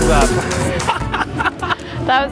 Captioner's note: laughing